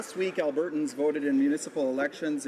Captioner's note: some Applause